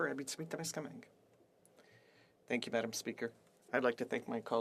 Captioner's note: speaking French